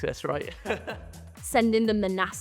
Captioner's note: laughs